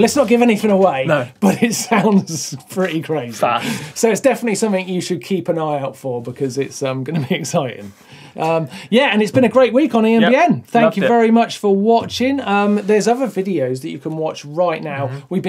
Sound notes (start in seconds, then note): 2.3 laughs